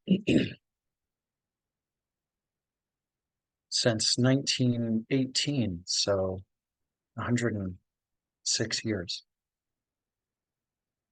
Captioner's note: clears throat